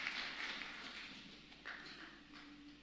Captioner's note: applause